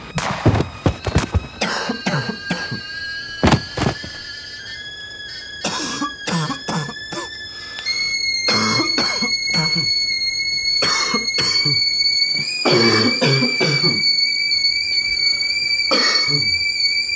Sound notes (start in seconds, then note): 0.2 gunshot; 2.3 kettle begins to whistle; 7.6 kettle whistles louder; 12.4 coughing